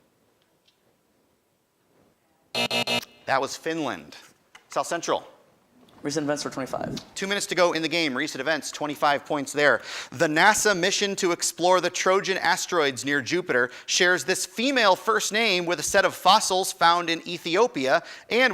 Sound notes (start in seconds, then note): 2.5 end time buzzer rings